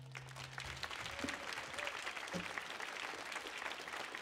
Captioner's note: audience applauding